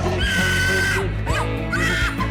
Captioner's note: screaming